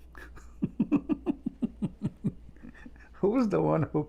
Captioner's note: Ketawa